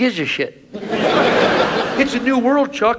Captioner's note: audience laughs